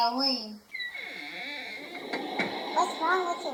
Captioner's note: door opens and closes